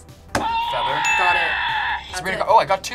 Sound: buzzer shouts

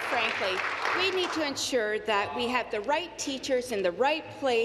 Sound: applause

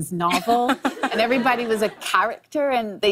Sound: laughter

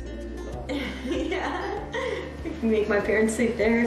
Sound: laughs

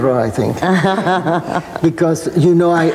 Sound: laughs

